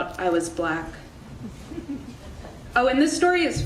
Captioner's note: audience laughing